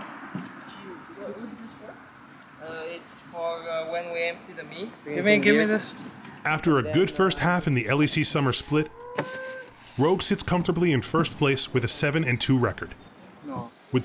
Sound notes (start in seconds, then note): 0.7 all chattering